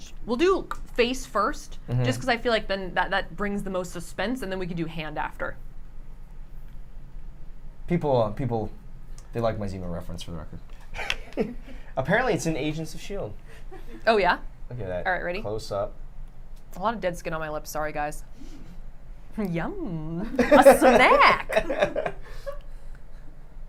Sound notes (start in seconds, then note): 11.0 light laughter; 20.3 laughter